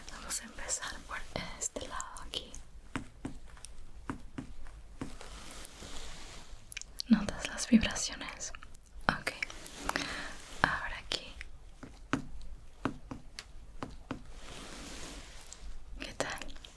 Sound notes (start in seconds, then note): 4.0 tapping sounds; 12.8 tapping sounds